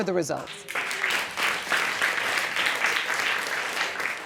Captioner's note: audience applauds